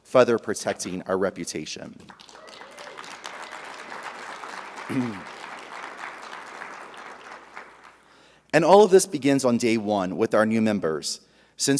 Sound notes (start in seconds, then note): 2.1 audience applauding; 2.2 audience cheering